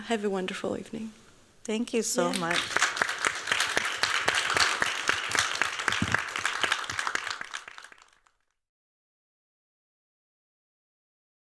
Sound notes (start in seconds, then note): 2.2 applause